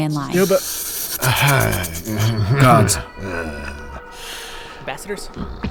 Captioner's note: laughing uncomfortably, alien chittering